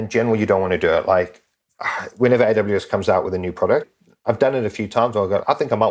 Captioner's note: sigh